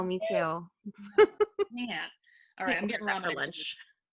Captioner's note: laughing